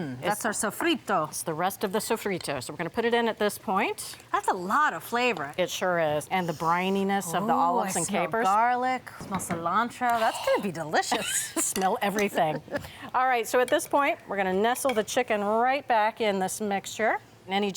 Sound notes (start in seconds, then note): 12.3 both laughing